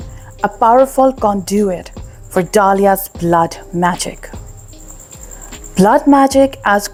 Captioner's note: sound: Liquid dripping, heartbeat intensifying